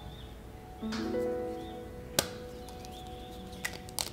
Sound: egg cracks

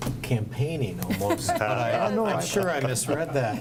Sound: group laughs

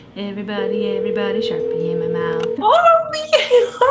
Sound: phone rings

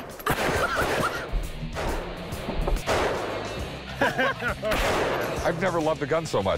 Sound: gunfire

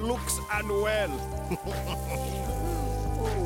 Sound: chuckling

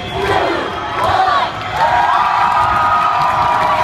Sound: cheering

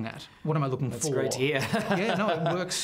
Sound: laughs

